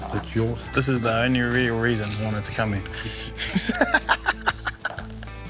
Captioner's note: laughs